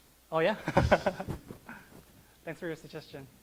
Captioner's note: laughs